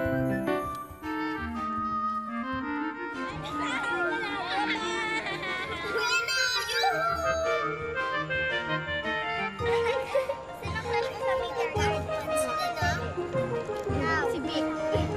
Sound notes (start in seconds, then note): 3.3 girl 1 laughs